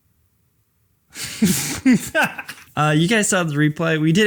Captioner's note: laughs